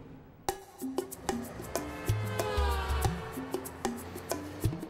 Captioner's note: cars speeding